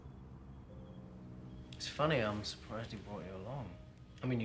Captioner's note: none